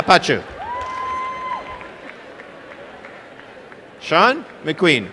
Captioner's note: applause and cheering